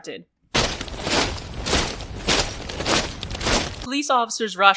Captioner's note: sound of several boots